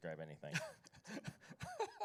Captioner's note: laughs